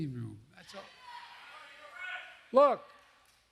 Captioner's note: applause